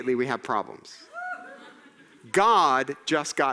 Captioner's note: audience laughing